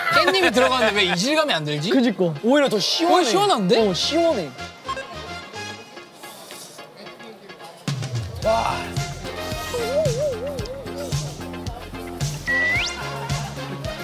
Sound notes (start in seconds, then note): 9.7 slurping